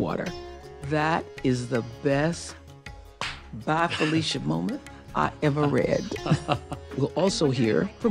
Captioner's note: claps